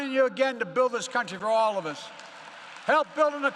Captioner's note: applause